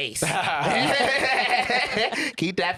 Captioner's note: both laughing